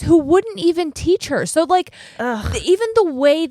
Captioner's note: none